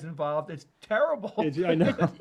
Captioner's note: laughs